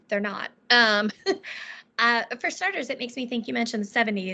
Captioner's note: laughing